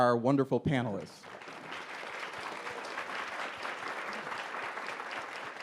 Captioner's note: audience applauds